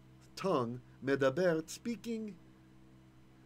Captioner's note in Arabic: بالعبرية